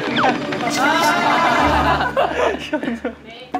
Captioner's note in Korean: 으아아